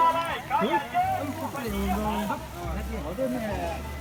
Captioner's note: street vendor shouting